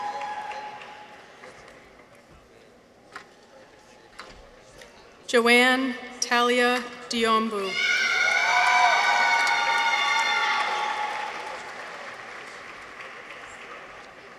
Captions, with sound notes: Johanna Thalia Diambou. -(people cheer) -(audience applauds)